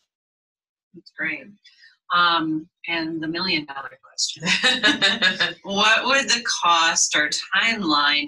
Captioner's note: laughs